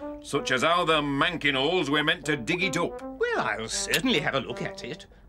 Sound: none

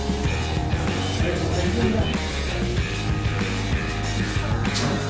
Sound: people chattering

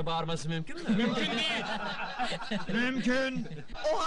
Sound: giggling

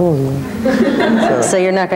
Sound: audience laughing

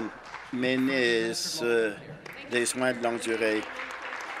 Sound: applause

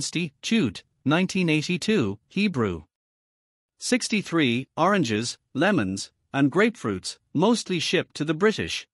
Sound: Hebrew

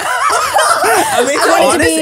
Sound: everyone laughs

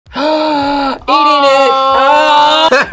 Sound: gasps; both laugh

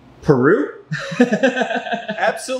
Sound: man laughs

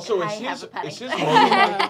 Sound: laughing

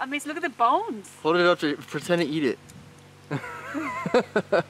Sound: laughs

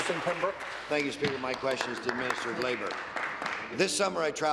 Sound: applause

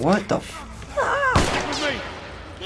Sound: gun shot

